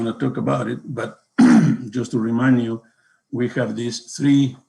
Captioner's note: coughs